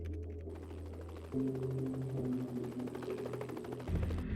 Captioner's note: helicopter blades whirring